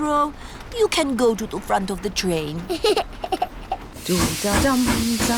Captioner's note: giggles